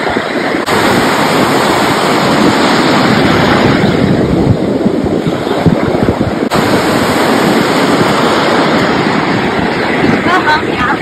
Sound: waves crashing on beach

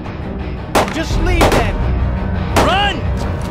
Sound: shots firing

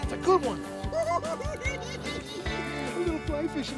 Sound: cackling

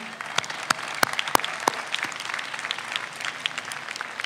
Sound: audience applauds

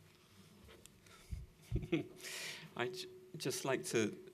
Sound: chuckles

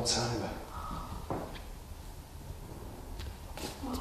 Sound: taps faintly

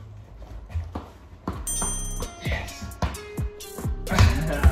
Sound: ball bouncing

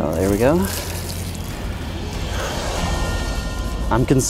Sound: water splashing

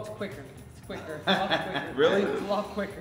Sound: laugh

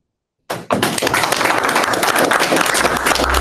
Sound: applause

